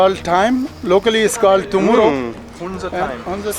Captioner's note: speaking in foreign language